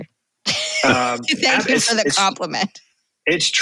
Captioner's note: chuckle